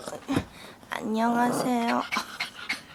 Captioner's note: growl